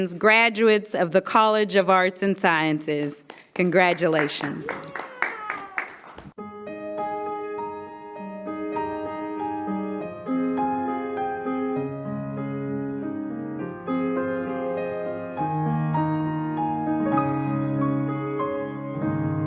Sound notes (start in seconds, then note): 4.6 audience clapping; 6.6 gentle music